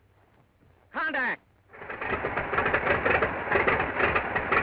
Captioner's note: engine starting